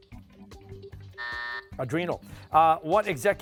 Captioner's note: buzzer